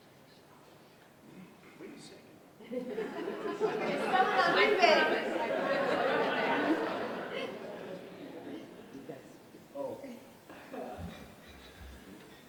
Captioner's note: applause